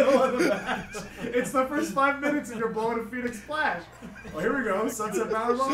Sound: laugh

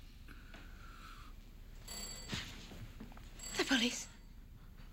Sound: doorbell Ringing

